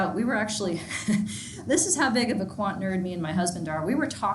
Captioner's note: chuckles